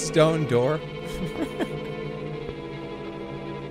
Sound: chuckles

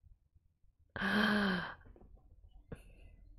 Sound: gasps

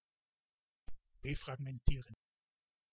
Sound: fast Pronunciation

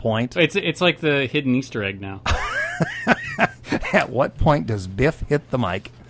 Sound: laughing

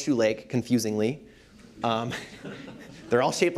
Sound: laughter

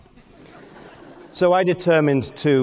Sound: audience laughing

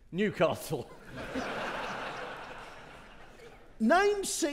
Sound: audience laughing

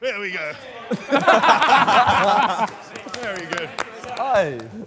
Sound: laughter

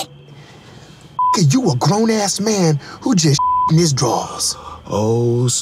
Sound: beeps

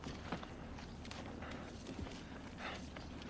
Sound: panting

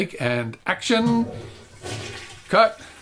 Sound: toilet noise

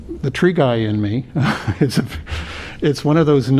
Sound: laughter

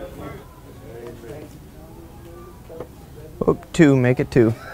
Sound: background chatter

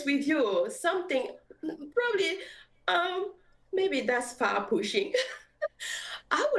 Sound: giggles

